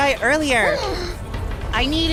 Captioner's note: gasp